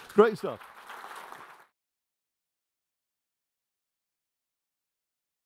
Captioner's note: audience applauding